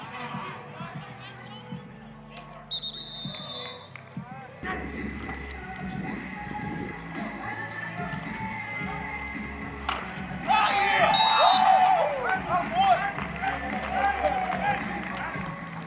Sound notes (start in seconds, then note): 2.6 whistle blows; 10.2 cheering; 11.0 whistle blows